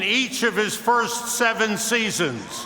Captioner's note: cheers and applause